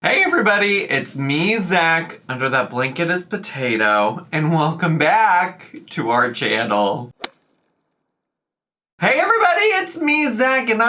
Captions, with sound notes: - Hey everybody, it's me, Zach, under that blanket is Potato, and welcome back to our channel. (logo thuds) Hey everybody, it's me, Zach, and